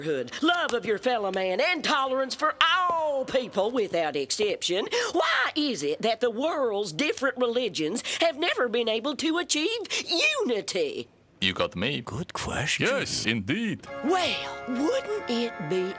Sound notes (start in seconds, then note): none